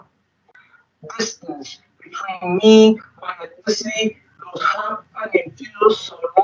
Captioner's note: speaking distorted